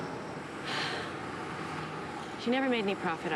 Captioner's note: sighs